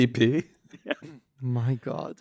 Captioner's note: laughs